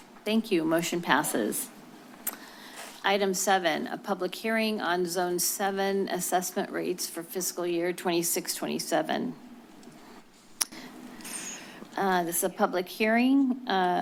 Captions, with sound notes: Thank you, motion passes. Item seven, a public hearing on Zone 7 Assessment Rates for Fiscal Year '26-'27. [clicks tongue] This is a public hearing